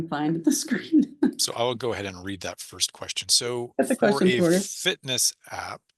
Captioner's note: laughs